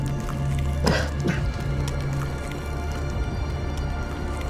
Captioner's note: blood dripping; substance crackling